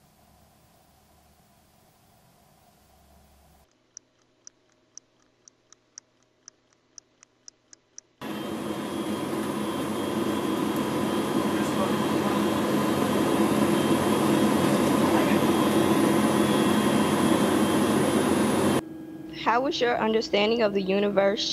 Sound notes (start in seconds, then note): 3.6 ticking clock; 8.5 humming engine; 11.8 man talking